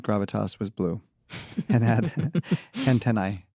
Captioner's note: chuckles